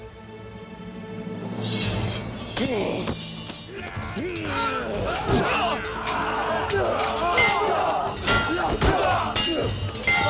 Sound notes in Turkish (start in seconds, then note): 1.5 Kılıç sesleri; 4.1 Dövüş sesleri